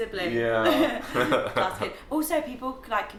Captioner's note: laughing